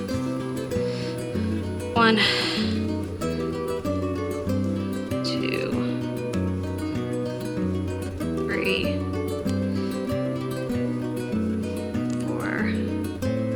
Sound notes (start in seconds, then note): 3.0 scratching